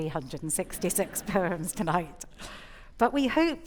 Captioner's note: audience laughing